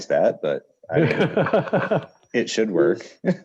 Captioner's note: laughs